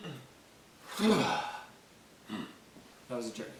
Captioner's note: exhales loudly